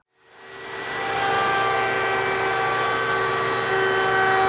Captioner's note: router humming